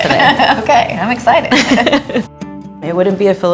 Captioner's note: laughter